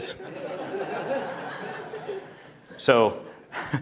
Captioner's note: audience laughing